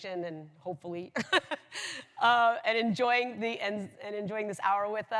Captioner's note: laughs